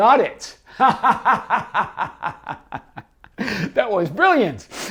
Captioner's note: laughs happily